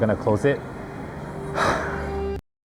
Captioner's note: sighs